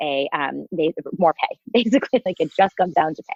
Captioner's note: chuckles